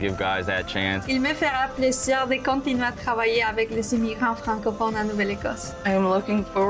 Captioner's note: woman speaking foreign language